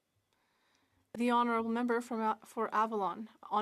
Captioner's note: speaking french